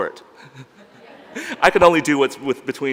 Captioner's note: laughs